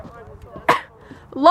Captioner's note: coughs